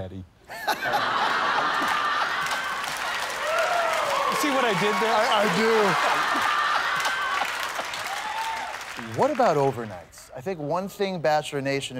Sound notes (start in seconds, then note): 0.7 laughter, cheers, and applause; 5.4 laughter